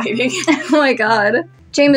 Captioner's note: chuckle